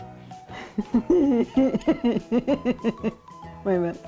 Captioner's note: laughing